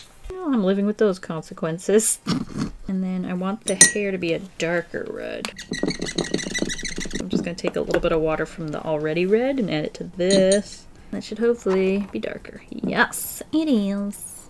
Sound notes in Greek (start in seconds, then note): 2.2 Κρυφογελάει; 5.4 Μαρκαδόρος τρίζει στην παλέτα